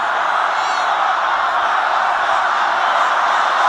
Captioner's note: crowd chanting